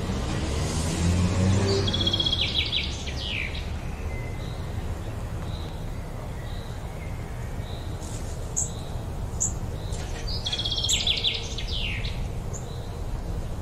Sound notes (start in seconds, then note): 2.8 birds chirping; 8.5 wind blowing softly